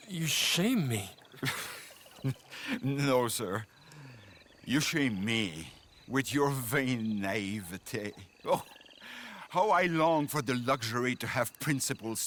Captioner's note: laughs